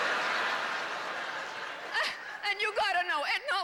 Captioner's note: howling laughter